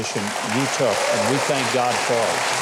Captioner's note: applause